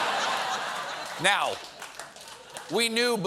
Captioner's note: laughter